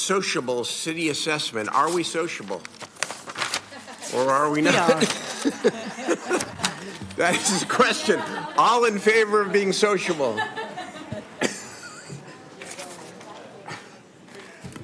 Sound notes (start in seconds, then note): 9.4 some Laughter